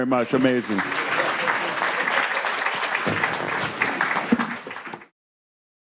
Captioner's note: audience applauding